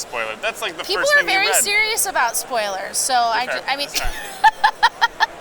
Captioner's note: laughs